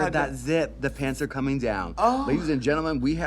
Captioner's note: moans